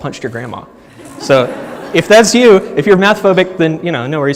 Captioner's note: audience laughs